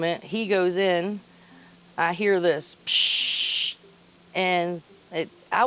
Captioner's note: imitates static crackling